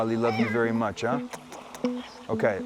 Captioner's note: imitating kissing